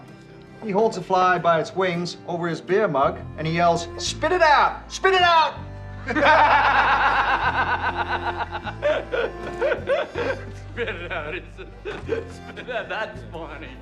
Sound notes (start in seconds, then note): 6.0 laughter